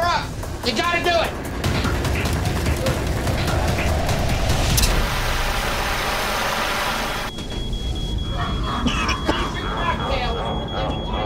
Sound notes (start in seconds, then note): 7.1 alarm; 8.8 coughing